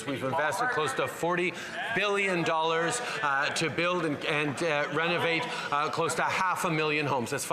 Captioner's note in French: voix de l'interprète